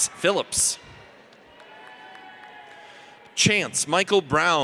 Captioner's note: audience cheers